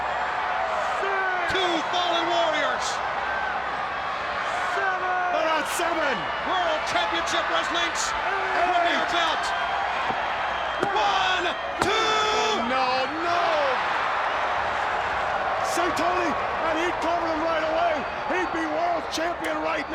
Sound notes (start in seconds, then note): 15.6 crowd chatter